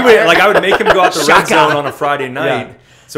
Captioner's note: laughter